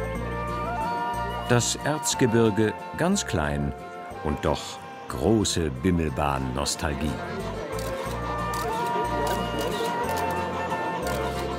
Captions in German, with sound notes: Das Erzgebirge ganz klein. Und doch große Bimmelbahnnostalgie. (Fotogeräusche)